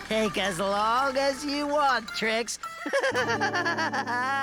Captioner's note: laughing